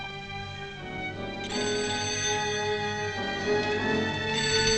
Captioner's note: phone ringing